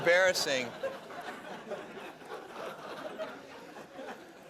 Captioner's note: laughter